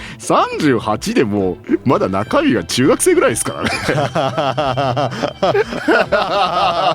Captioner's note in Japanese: 笑い